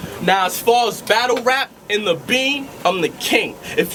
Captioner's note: none